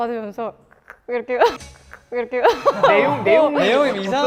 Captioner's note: giggle